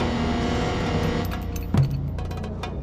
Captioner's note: metallic sounds